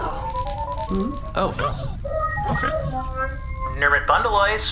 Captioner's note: communicator chimes